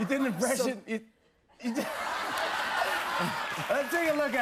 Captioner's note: laughter